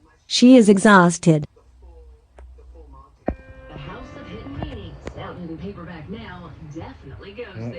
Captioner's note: TV continues playing